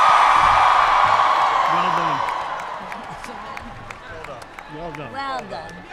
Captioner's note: applause